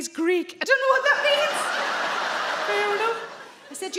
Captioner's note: audience laugh